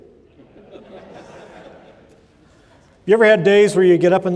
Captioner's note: laughter